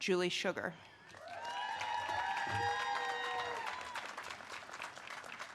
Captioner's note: audience cheers and claps